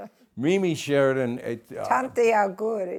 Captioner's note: laughs